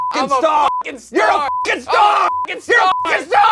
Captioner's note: beep